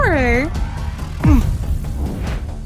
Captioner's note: grumbles